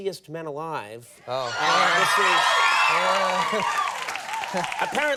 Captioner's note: crowd cheering